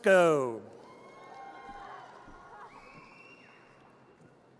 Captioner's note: audience cheers